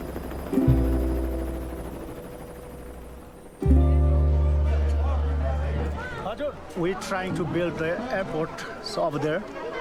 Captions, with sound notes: (overlapping chattering) - We're trying to build the airport over there,